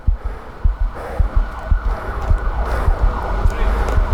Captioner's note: heart pounding; sirens in the distance; footsteps approaching